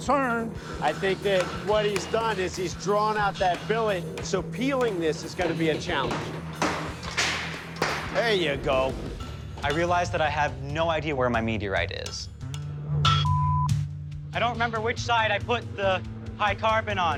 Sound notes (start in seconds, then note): 6.2 clanking; 12.0 clangs